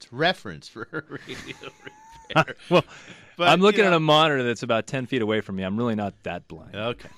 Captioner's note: both laugh